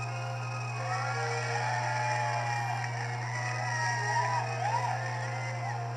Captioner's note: crowd Cheering